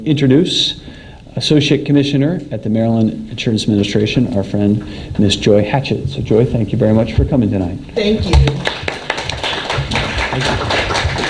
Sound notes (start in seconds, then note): 8.4 applause